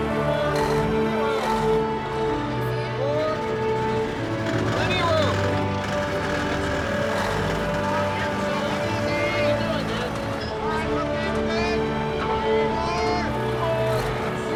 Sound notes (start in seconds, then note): 2.8 men yelling